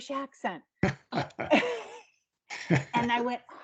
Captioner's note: laughing